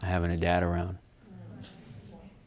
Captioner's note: audience groaning